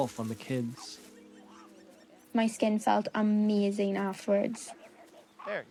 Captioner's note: voice-over